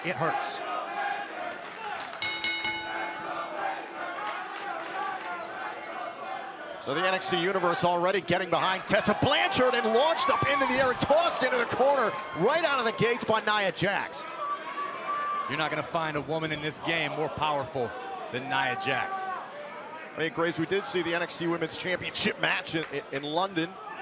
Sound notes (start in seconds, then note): 2.2 bell ringing; 3.6 crowd cheering